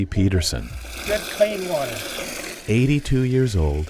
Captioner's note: water splashes